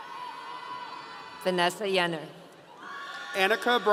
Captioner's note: audience cheering